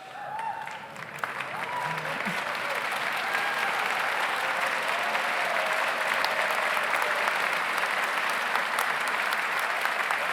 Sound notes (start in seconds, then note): 0.0 audience cheers; 0.2 audience applauds